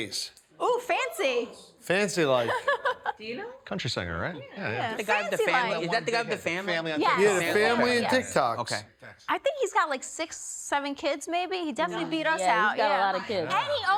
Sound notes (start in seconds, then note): 2.4 laughs